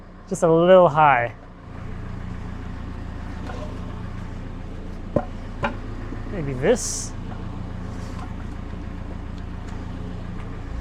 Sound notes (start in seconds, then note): 2.3 engine purring